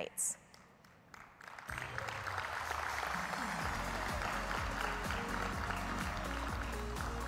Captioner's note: audience applauding; upbeat music